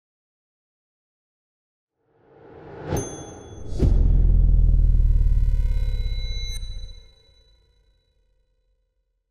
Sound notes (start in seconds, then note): 2.3 air whooshing; 2.9 bell dinging